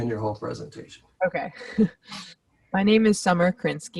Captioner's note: laughs